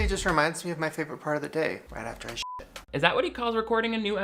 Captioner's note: beep